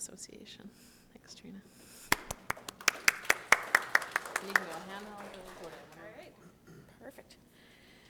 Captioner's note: applause